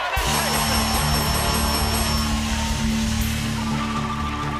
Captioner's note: cheers and applause